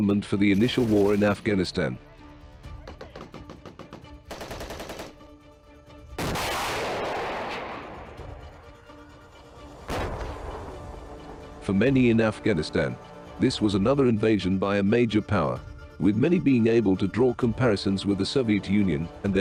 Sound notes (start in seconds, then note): 2.2 gun shots; 6.2 explosion